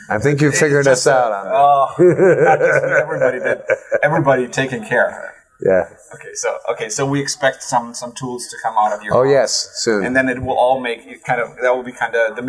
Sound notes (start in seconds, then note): 1.6 laughts